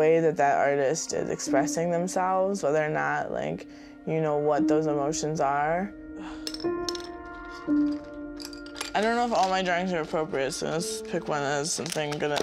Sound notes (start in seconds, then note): 6.4 pencils clattering